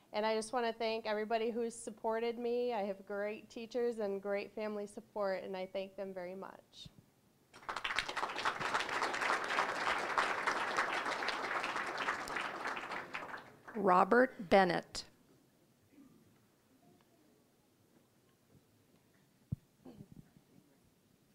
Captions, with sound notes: AND I JUST WANT TO THANK EVERYBODY WHO SUPPORTED ME. I HAVE GREAT TEACHERS AND GREAT FAMILY SUPPORT, AND I THANK THEM VERY MUCH. (applause) >> ROBERT BENNETT.